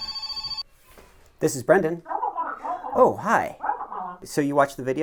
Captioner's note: phone rings